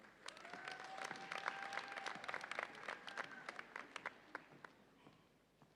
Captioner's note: audience applauds and cheers